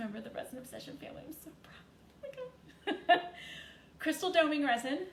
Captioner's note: chuckles